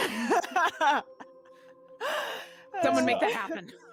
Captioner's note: laughing